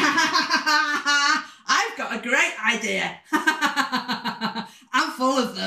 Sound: laughter; laughter

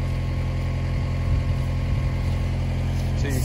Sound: machinery humming

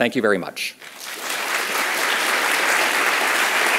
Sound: applause

